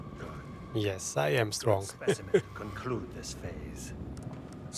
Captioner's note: laughs